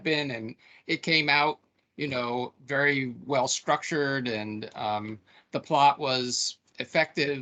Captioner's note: none